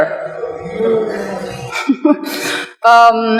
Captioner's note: laughter